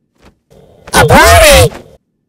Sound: alien voice

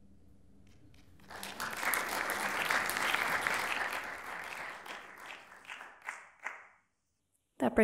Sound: applauding

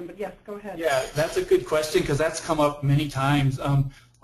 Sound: voiceover

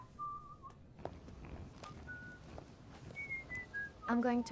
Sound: whistling

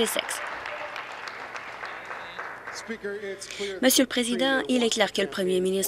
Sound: applause

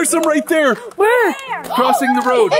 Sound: gasps

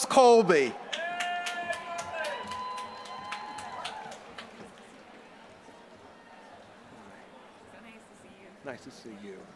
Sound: applause

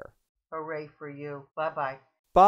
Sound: voiceover

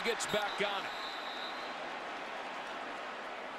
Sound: whistle

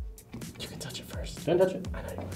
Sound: whispers

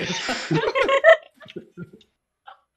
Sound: laughter

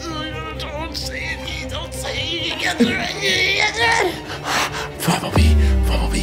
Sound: whimpering

